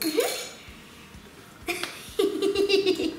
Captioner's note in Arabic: يضحك